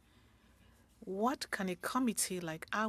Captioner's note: speaking French